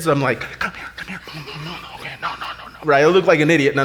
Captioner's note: whispers